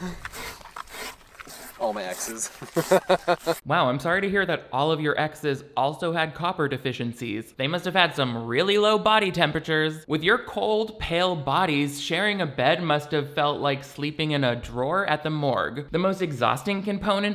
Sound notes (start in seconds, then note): 2.5 laughs